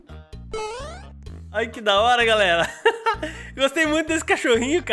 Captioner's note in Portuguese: risos